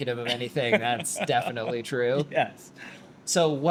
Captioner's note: laughs